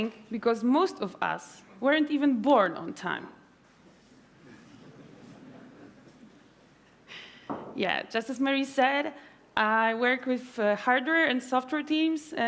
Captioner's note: laughter